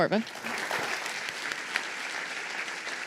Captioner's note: applause